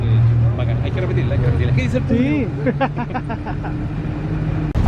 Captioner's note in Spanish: risas